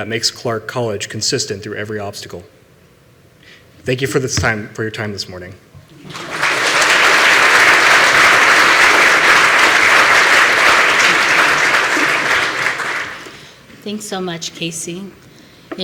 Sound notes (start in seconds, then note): 6.0 applause